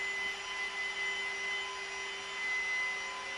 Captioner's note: machine sounds